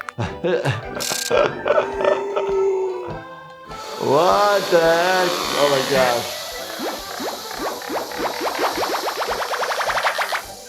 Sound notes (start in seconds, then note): 0.1 upbeat music; 0.5 jaws cracking; 1.0 Patrick inhaling; 1.0 laughs; 7.4 air gushing; 7.4 suckers popping